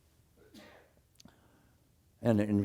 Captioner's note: cough